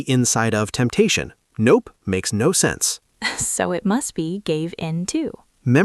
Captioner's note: laughs